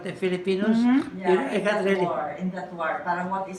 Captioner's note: chatter; foreign language